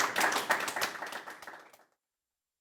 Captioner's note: applause